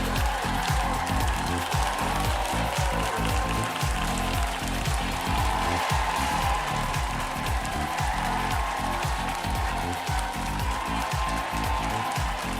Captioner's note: applause